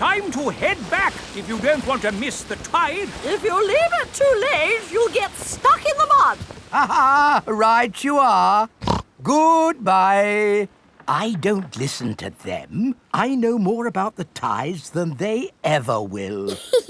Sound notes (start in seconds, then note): 6.7 laughs; 8.8 snorts